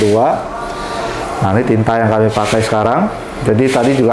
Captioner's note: printer machine sound